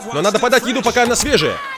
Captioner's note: knife chopping